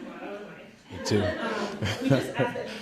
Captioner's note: scattered laughing